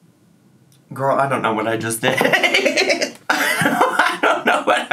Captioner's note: laughs